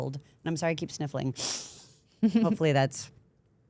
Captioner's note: sniffs